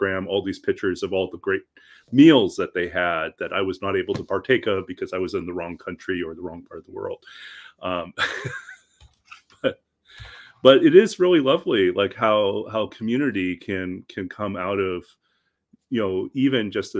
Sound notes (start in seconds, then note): 7.9 person laughing